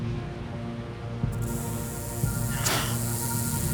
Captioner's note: rattling